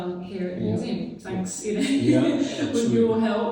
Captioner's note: laughs